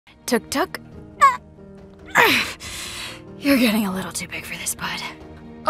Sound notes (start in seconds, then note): 0.9 grunts; 2.0 sighs